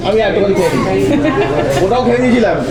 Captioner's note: laughs